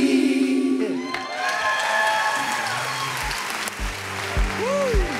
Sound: congregation cheers and applauds

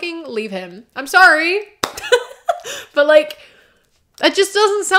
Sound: laughter

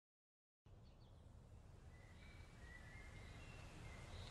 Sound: birds chirping

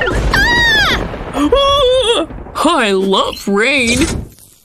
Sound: shriek

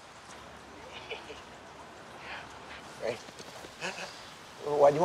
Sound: laughs

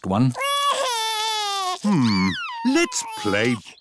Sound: crying

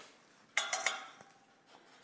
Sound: rattle

